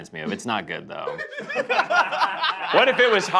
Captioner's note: laughter